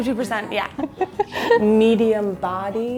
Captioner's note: chuckling